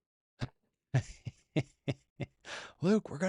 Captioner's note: laughs